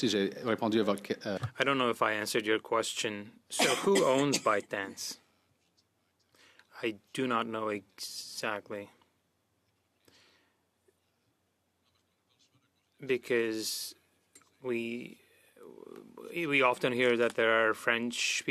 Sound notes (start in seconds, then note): 3.8 speaking French